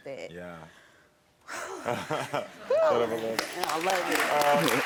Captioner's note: breathes out heavily